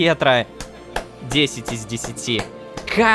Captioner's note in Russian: Хлопки